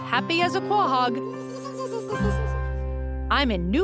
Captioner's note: snickers